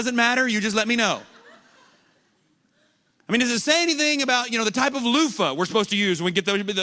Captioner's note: laughter